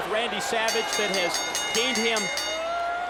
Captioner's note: bell rings